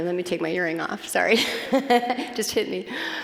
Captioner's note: laughing